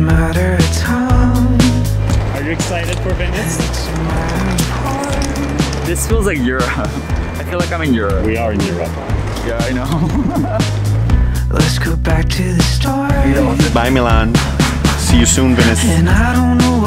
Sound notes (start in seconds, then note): 9.7 laughs